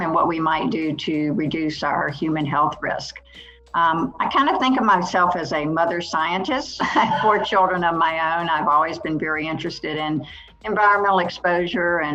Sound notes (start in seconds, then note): 6.7 laughs